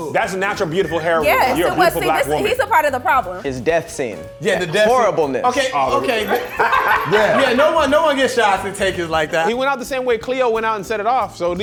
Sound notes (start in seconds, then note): 6.2 soft metallic rattling; 7.1 all laughing